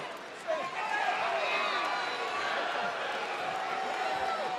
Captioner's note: applause